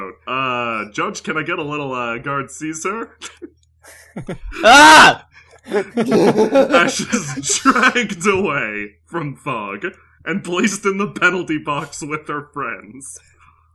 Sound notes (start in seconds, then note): 3.9 faint laughter; 5.6 laughter